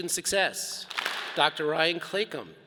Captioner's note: all clap